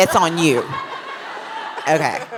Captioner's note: laughter